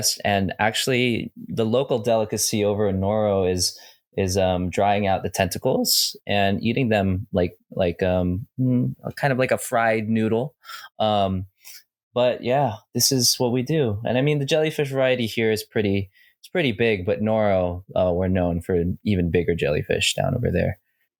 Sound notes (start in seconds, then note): none